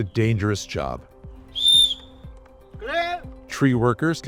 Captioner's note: whistle blows